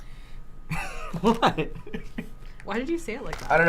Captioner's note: laughs